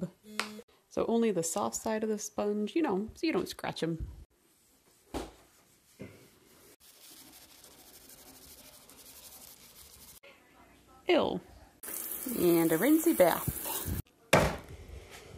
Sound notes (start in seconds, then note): 14.3 thud